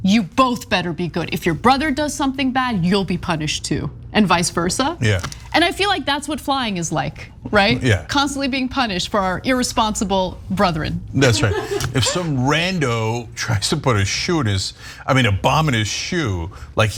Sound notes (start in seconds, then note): 11.2 laugh